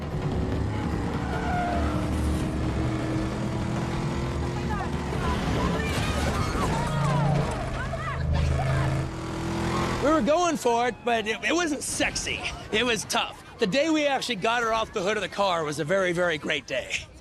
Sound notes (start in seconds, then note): 0.2 car revving; 0.2 tires screeching; 8.6 car revving